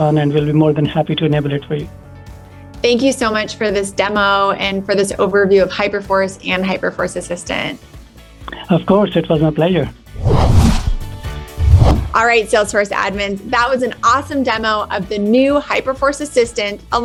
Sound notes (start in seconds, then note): 11.5 air whooshing; 11.6 upbeat music